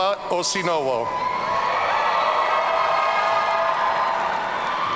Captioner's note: audience cheering